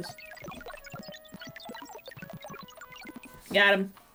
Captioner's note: brain thinking noises